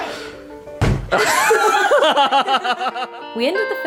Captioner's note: laughing